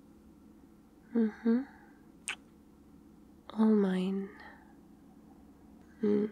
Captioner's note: kiss